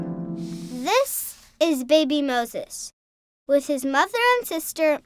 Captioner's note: harp music; voiceover